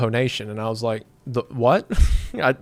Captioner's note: chuckles